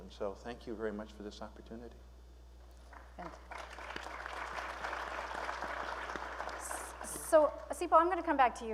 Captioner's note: applause